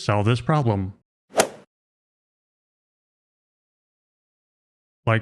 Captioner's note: golf ball hit sound effect